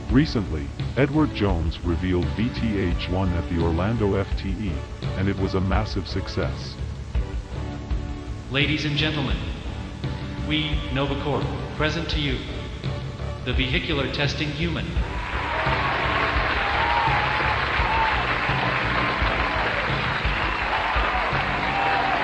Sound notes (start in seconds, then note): 16.7 audience applauding